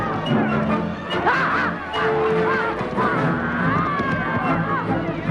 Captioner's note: townsfolk shouting; Hundra shouting